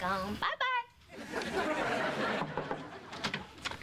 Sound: knock on door

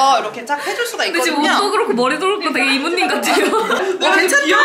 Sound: laughing

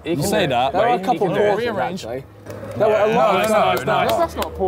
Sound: all chattering

